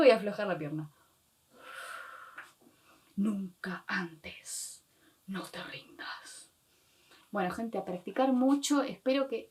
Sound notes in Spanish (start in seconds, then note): 1.5 exhala